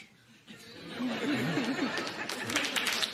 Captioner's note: laughter